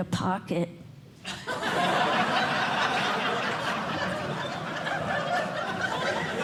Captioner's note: laughter